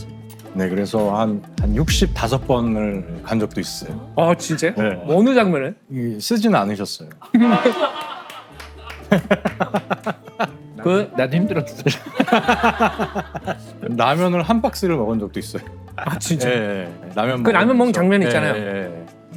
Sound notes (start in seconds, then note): 7.3 Ji-tae, thinking of the past, laughs and cries